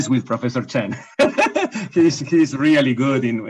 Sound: laughs

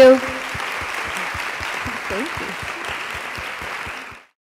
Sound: applause

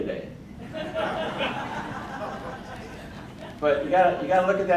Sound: crowd laughing

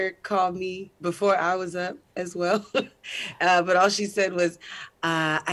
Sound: laughs

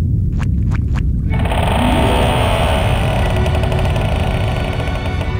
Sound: creaking

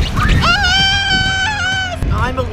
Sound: splash; scream

